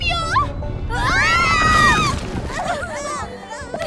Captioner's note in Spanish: Tiembla, las chicas gritan